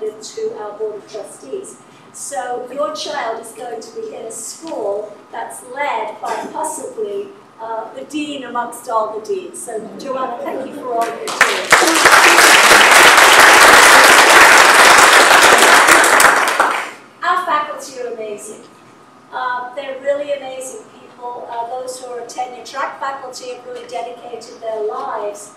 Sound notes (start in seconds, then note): 11.0 applause